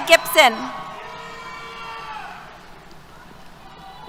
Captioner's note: cheers